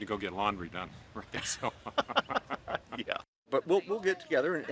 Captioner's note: both laugh